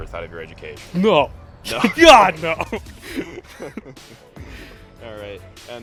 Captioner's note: laughs